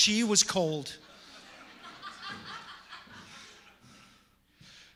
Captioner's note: audience laughing